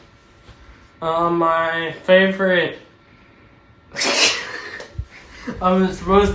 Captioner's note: haha